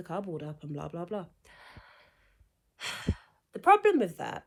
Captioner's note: sighs